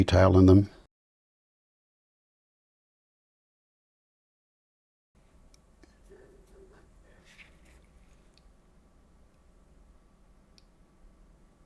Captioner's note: silence